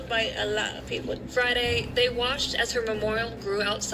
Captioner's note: on TV